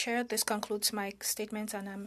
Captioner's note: speaking in French